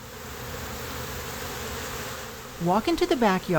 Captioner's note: bees buzzing